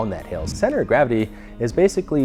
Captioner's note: whoosh